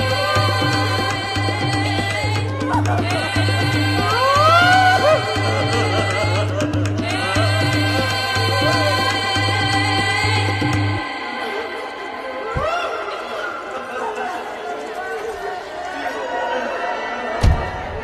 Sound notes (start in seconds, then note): 3.8 crowd crying